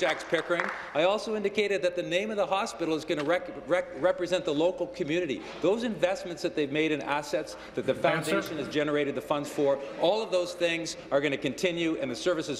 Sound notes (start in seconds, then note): 0.0 applause